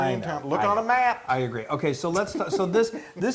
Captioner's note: laugh